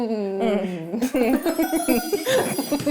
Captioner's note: sound of inspiration hitting